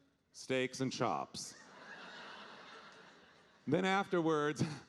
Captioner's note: audience laughing